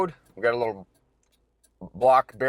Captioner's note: signal light clicking